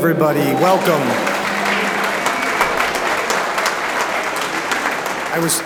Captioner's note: audience applauds